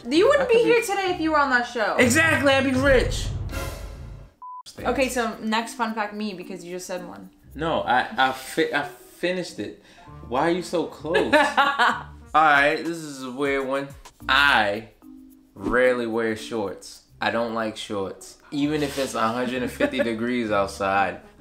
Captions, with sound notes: - You wouldn't be here today if you were on that show. - Exactly, I'd be rich! - Okay so next fun fact me, because you just said one. - No, I finished it. Why are you so close? (laughing) All right, this is a weird one. I rarely wear shorts. I don't like shorts. Even if it's 150 degrees outside.